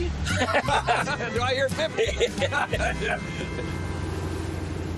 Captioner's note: both laugh; imitates auctioneer